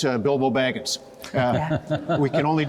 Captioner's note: chuckling